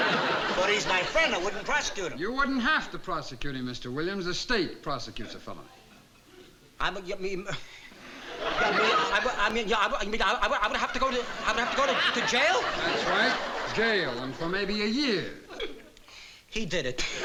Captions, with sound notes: But he's my friend. I wouldn't prosecute him. You wouldn't have to prosecute him, Mr. Williams. The state prosecutes a felony. [STAMMERING] I'm gonna have to go to-- I'd have to go to jail? That's right, jail and for maybe a year. He did it.